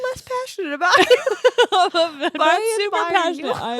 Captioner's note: laughing